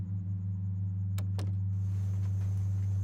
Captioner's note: door closes